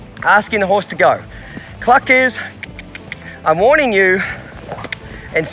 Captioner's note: mouth clicking